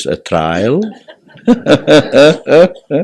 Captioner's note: laughs